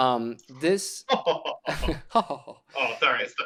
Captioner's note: laughter